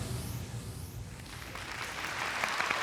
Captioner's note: applause